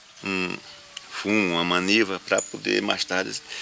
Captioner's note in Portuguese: Canto de pássaros